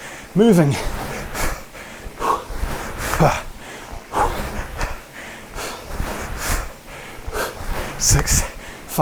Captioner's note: breathes heavily